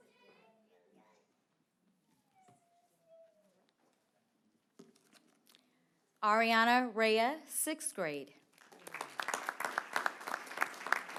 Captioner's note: applause